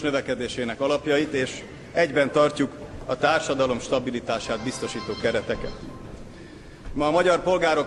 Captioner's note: telephone ringing